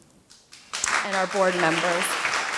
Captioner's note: applause